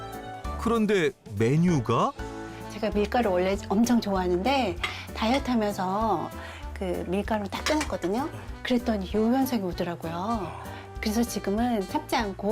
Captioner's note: voiceover